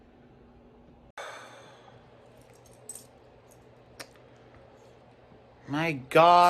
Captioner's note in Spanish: suspira